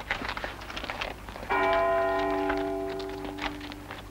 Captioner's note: bell ringing